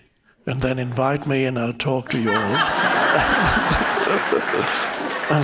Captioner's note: all laughs